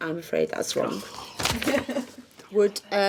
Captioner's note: groaning